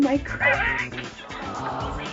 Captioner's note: wheezing